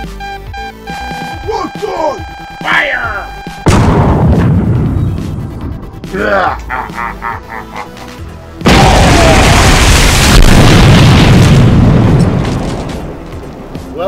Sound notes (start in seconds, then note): 3.6 Exterminator cannon fires plasma missile; 6.2 Fake Bonestyx laughs evilly until the plasma missile knocks him down